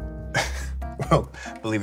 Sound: chuckles

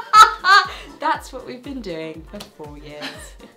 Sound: laughs

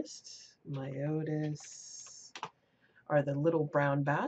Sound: typing

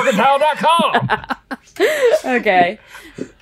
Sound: laughing

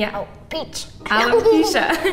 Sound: laughing

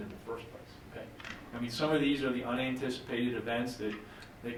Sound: none

